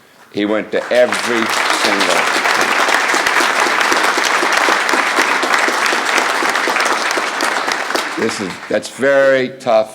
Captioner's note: applause